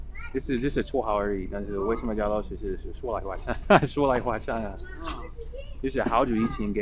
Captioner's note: mandarin